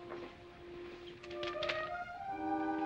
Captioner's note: paper rustling